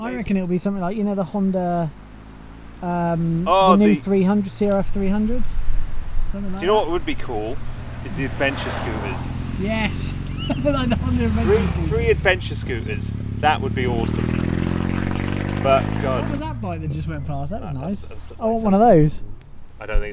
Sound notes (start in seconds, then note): 14.5 motor cycle engine droning